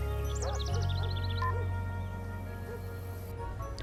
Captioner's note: phone beeps off, dog barks